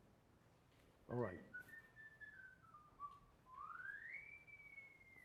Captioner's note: whistling